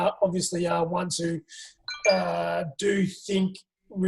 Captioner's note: phone alert